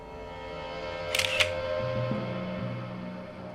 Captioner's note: camera clicking